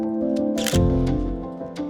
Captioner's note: camera shutter clicks